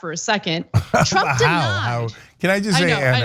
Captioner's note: laugh